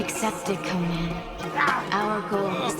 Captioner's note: grunting